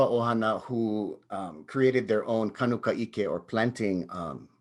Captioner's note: speaks in native language; speaks in native language